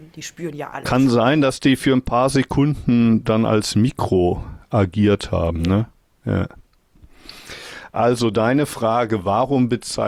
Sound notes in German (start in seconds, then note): none